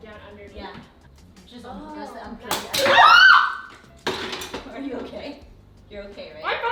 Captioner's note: screams